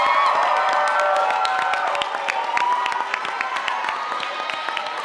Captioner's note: audience applauding